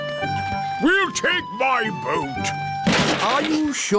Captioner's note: clattering